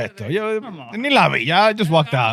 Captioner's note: speaking In Foreign Language